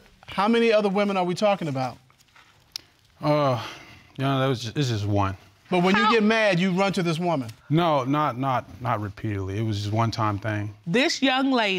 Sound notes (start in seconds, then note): 3.2 sighs